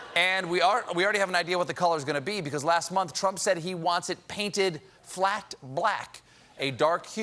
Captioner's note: laughter